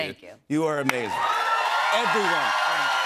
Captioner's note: cheers and applause